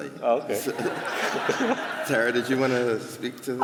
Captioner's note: laughter